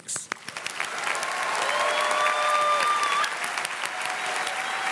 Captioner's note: audience cheers and claps